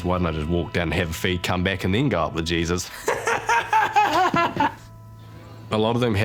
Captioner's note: laughs